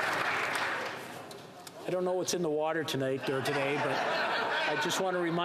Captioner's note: some Applause